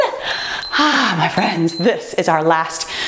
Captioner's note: timer beeps